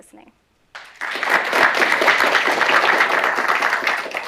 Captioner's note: applause